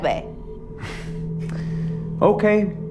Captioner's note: Chetan sighs